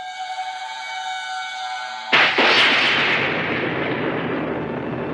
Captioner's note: thunder